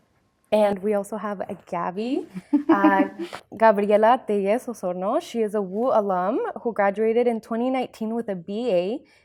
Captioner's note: laughs